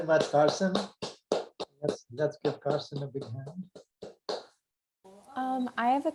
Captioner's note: clapping